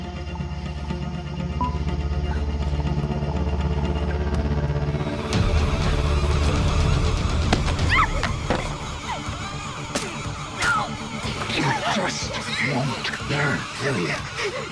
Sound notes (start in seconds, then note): 5.9 screams, dark music; 8.3 Jane gasps; 9.9 phone cracks